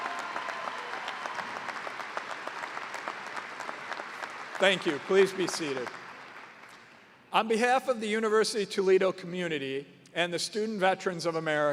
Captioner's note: cheers and applause